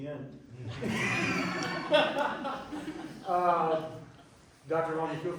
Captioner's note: laughter